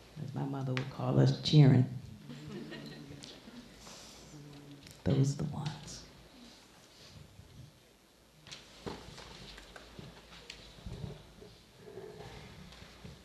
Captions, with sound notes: as my mother would call us: chi'ren. (chuckling) Those are the ones.